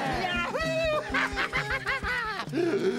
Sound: laughing; inhaling deeply

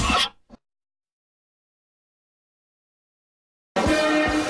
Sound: silence

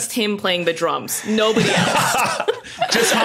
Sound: group laughing

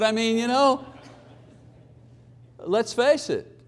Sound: audience laughing

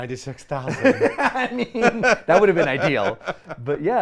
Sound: laughs

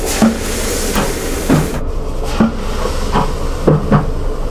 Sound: fizzling

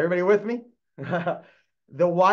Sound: laughs

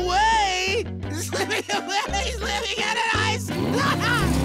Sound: laughing

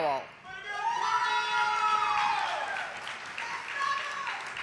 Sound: audience applauding

